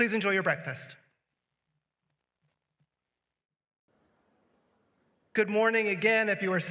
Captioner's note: silence